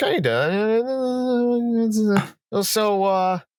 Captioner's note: high-pitched almost-humming stammer; high-pitched vocal sound